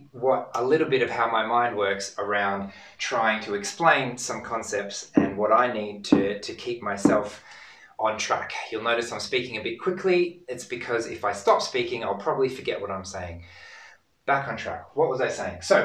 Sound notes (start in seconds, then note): 5.2 ball thuds